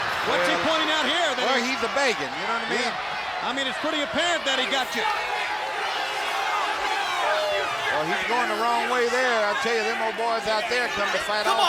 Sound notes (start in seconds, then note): 6.5 crowd clamoring